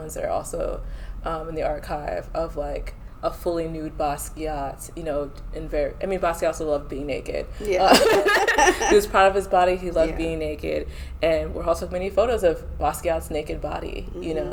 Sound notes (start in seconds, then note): 7.6 laughter